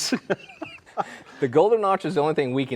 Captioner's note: both laughing